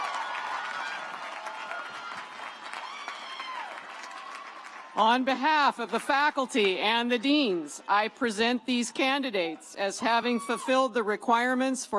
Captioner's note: cheers and applause